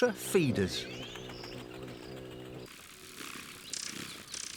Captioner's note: wings hum